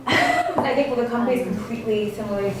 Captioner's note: laughs